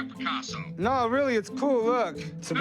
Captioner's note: on phone